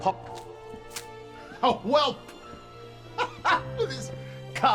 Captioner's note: laughing